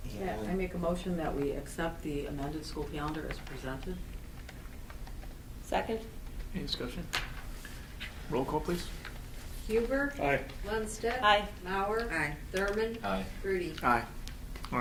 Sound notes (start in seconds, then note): none